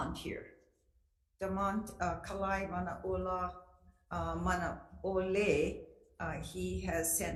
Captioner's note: speaks foreign language